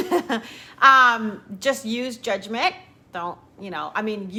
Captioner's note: laughs